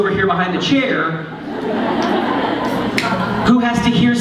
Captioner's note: laughter